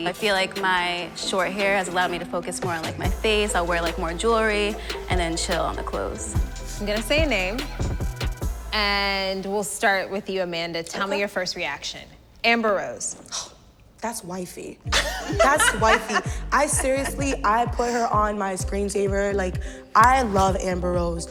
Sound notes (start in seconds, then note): 14.9 laughing